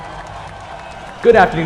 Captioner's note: audience applauding